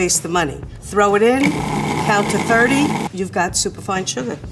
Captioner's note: food processor whirs